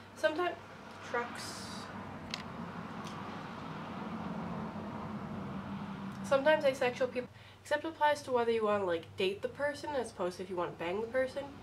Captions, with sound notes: Sometime- trucks. (traffic noises) Sometimes asexual people- Except it applies to whether you want to date the person rather than if you want to bang the person.